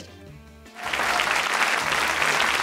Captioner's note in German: Applaus